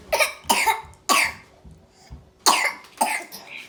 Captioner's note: baby coughing